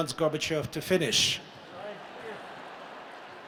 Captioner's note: laughter